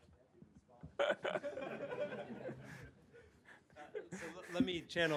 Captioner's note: laughter